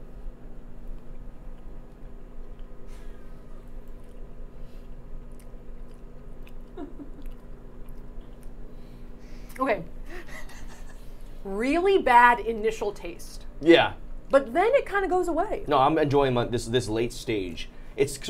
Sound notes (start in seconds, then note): 6.7 laughing